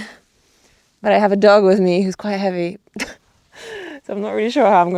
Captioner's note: chuckles